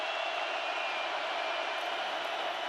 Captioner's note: crowd cheering